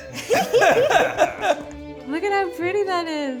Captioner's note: laughter